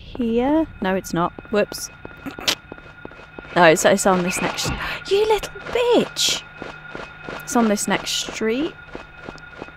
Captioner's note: snickering